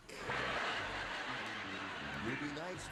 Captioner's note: laughter